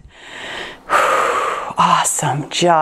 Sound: exhales

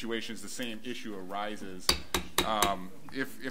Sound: gavel bangs

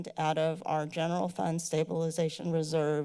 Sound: none

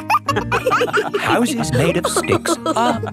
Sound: wolves laughing

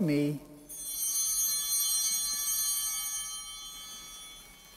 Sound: altar bell ringing

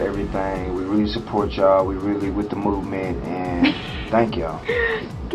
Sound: laughs

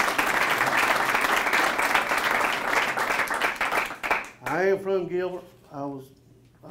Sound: applause

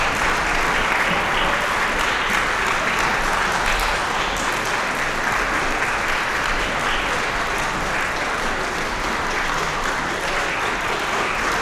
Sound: applause

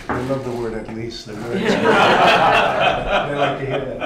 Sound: laughter

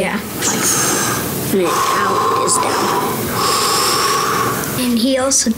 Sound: inhaling; exhaling

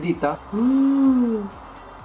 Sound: gasps

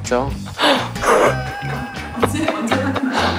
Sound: failed to hold back laughter

